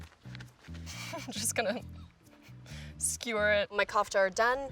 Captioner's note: chuckles